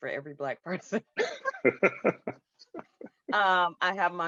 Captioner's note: laughing